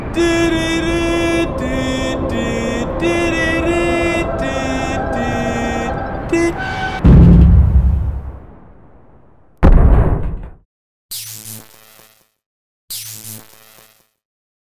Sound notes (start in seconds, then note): 0.0 unlicensed off-key humming of the theme song; 6.9 light pole crashes; 11.0 electricity sparks; 12.8 electricity sparks